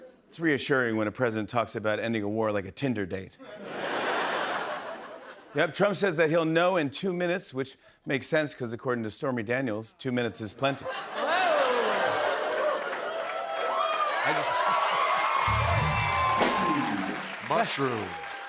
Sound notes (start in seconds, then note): 3.4 laughter; 10.6 laughter; 13.7 cheers and applause